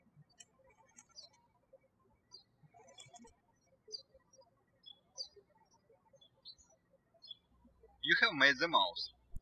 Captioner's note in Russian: птички щебечут